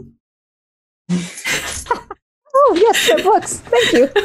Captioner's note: both laugh